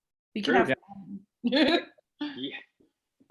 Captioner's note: laughs